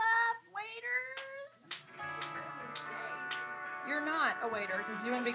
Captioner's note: claps